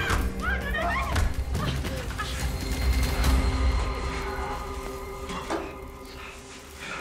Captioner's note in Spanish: Golpes; Gritos